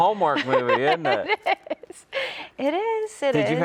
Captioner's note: laughs